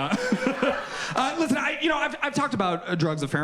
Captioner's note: chuckles